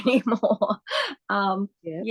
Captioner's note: laughs